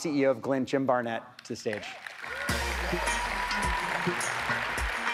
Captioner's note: audience applauds; jazzy music